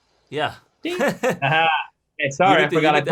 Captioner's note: laughing